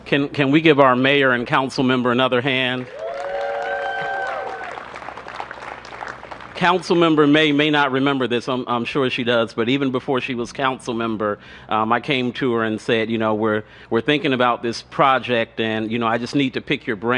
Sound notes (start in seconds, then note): 0.2 applause; 7.5 applause